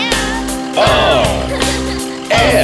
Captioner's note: giggling